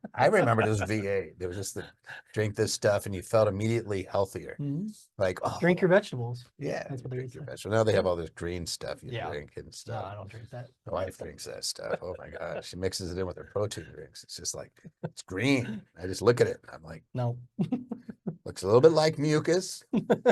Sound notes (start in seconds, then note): 5.4 sighs